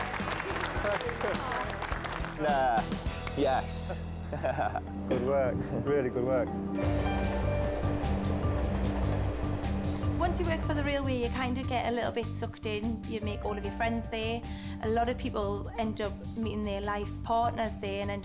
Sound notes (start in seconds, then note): 0.0 staff applauding; 7.1 train rumbling; 7.3 mellow music